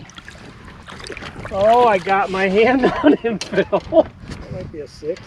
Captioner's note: laughter